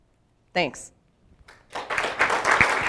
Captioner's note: applause